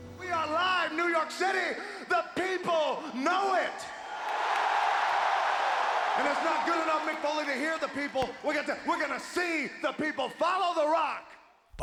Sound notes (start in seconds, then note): 4.1 applause